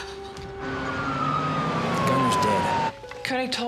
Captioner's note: siren wailing